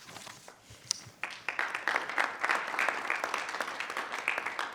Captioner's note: group applauds